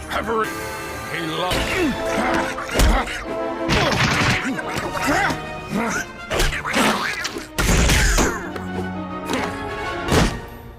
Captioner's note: Triggered Donald Duck noises